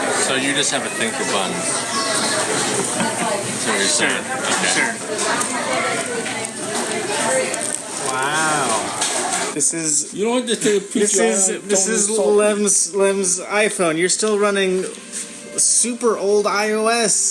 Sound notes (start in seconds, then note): 1.8 laughs; 5.8 crackling wrapping paper